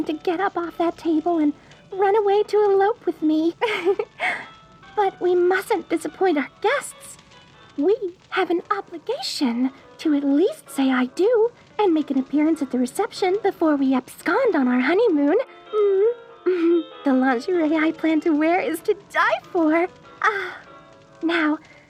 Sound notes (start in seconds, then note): 3.6 giggle